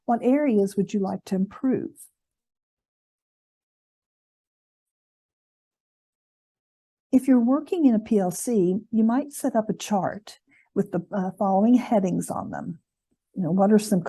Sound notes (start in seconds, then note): 3.3 silence